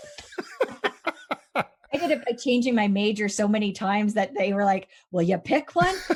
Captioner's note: laughing